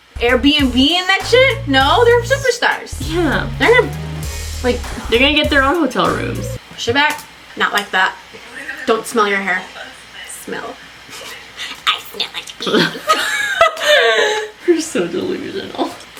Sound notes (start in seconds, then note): 3.0 sighs; 12.6 laughs; 12.7 both laugh